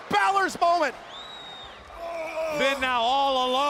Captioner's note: The Miz groaning